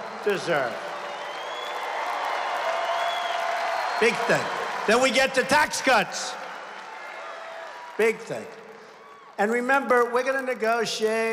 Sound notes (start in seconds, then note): 5.6 applause